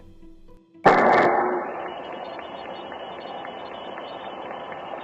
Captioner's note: loud explosion